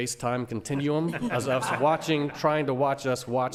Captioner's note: laughing